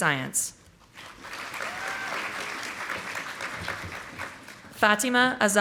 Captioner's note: audience applauding